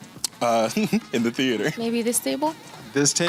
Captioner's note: chuckles